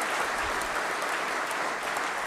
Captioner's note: applause